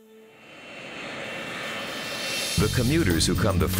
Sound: sound of jet engines

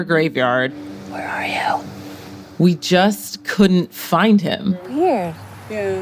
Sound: whispers

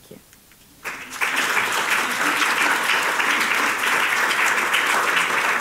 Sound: audience applauding

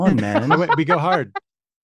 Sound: laughs

